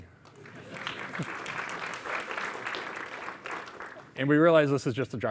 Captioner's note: audience applauding